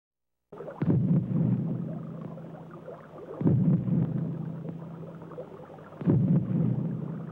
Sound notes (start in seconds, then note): 0.5 burbling liquid; 1.2 booming explosions